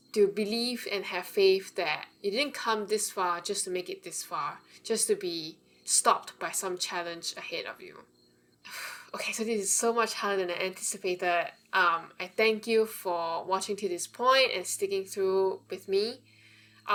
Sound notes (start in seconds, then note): 8.6 deep breath